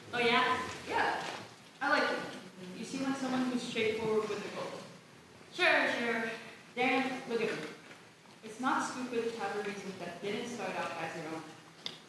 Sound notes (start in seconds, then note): none